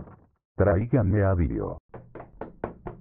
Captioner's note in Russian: на испанском